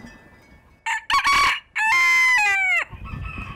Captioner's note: rooster crowing